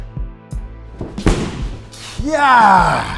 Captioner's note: kick thudding